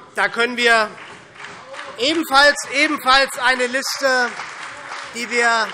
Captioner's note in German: Demonstrativer Beifall CDU und BÜNDNIS 90/DIE GRÜNEN